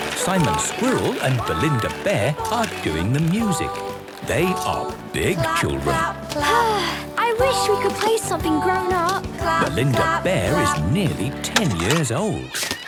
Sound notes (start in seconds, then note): 6.4 Belinda sighing